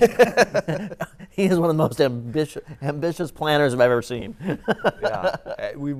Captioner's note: laughing